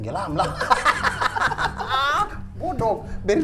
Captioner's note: laughing irritatingly